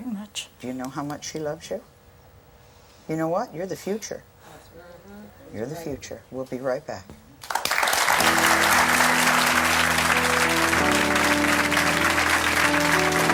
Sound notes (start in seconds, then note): 7.4 applause; 10.8 soft music